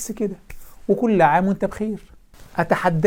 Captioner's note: sarcasm